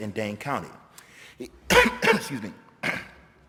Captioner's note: coughs